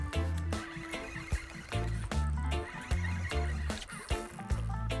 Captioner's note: reel whirring